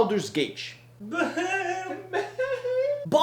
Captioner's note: chaotic Neutral laugh